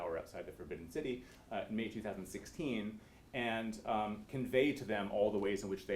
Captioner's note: none